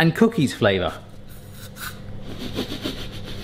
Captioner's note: spraying; sniff noises